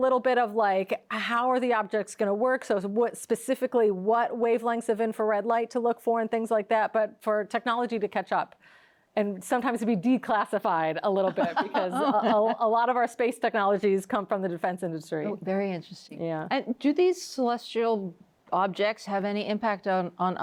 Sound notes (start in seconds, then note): 11.2 laughs